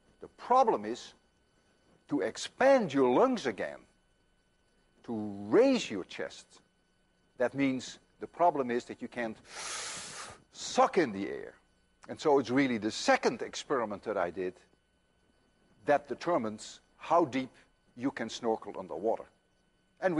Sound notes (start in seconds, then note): 9.4 inhales deeply